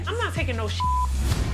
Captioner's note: beep